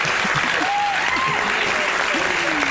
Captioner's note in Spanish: aplausos